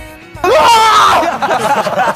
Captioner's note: laughing; screaming